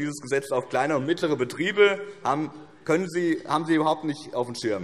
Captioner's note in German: none